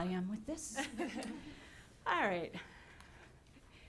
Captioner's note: laughing